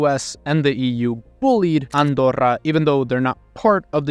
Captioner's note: camera clicking